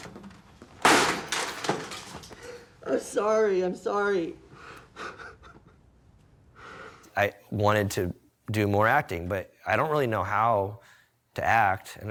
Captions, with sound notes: I'm sorry, I'm sorry. (sobbing) I wanted to do more acting, but I don't really know how to act